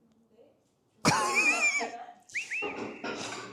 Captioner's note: sobbing